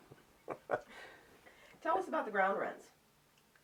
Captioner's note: laughs